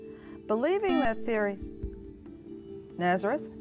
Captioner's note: buzzer